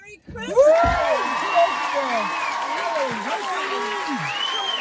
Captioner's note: people cheering